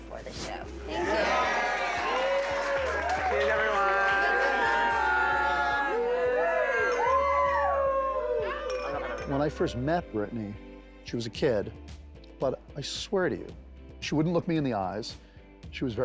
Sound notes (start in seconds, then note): 1.7 cheering and applause; 4.5 cheering and whooping